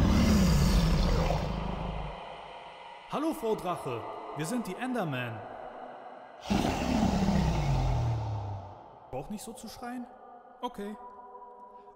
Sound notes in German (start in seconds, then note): 0.1 Drachen Sprache; 6.3 Drachen Sprache